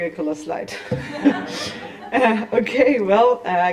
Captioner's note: laughter